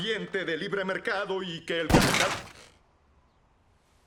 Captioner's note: gunshot